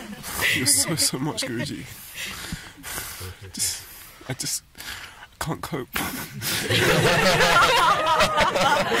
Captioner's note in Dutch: gelach